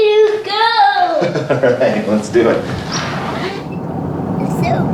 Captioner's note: laughs